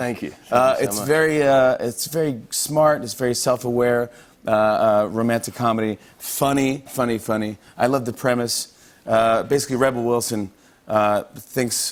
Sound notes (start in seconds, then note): none